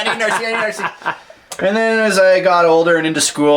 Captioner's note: laughing